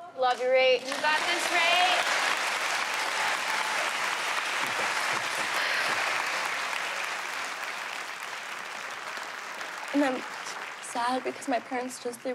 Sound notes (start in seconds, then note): 2.5 applause; 5.5 exhales deeply